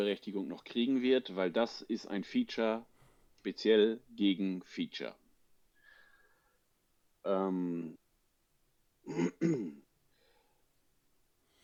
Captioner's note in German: räuspern